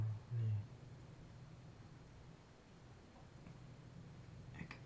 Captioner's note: speaking in foreign language